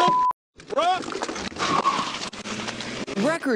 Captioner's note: engine roaring